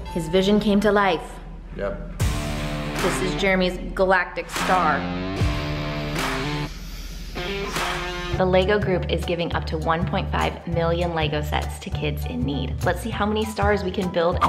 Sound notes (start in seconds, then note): 2.2 rock music begins; 5.5 whooshing